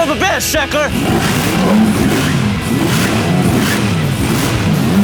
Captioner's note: engine revving